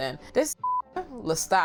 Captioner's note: beep